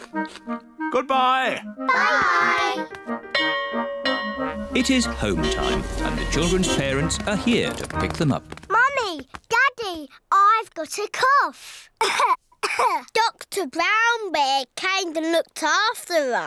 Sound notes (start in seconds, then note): 3.3 bell rings; 12.6 coughs